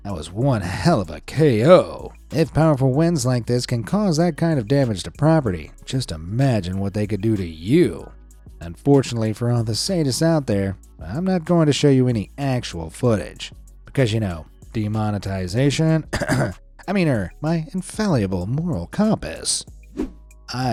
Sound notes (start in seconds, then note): 16.0 coughs